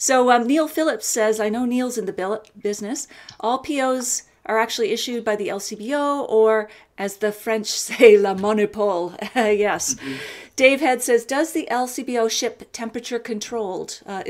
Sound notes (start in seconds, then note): 8.1 speaks in French; 9.6 laughs